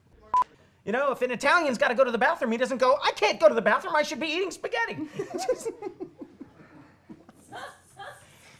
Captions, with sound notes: You know, if an Italian's got to go to the bathroom, he doesn't go, I can't go to the bathroom. I should be eating spaghetti! [LAUGHTER]